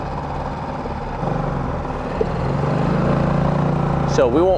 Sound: boat spluttering

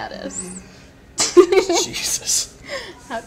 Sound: laughs

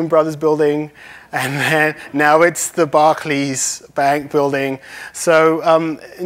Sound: laughs

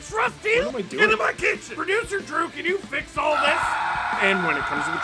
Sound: screaming

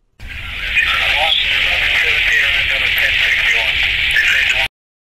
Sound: talking over radio

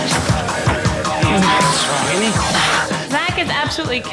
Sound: beep

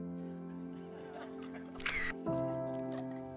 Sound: camera shot

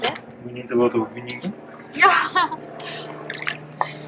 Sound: laughing

